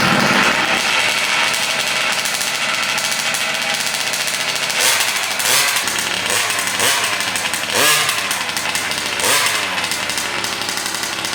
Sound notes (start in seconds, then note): 0.8 engines revving; 5.1 throttling